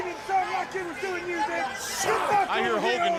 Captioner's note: crowd chatter